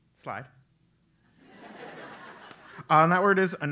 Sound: laugh

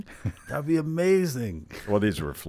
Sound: laughs

